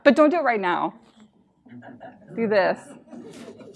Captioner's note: laughter